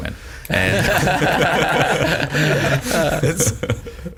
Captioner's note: all laughing